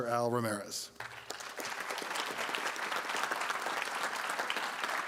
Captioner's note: applause